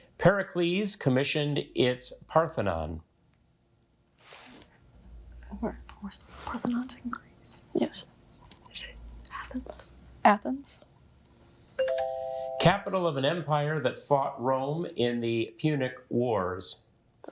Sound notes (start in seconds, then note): 4.6 group whispering